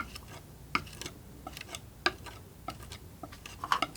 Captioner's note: scratching